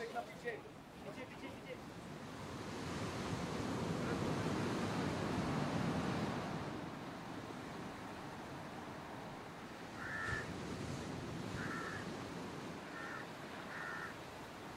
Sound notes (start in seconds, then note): 2.7 noise of the waves of the ocean; 9.6 croaking of raven